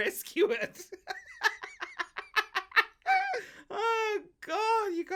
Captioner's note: laughs